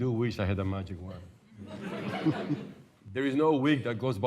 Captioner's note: laughter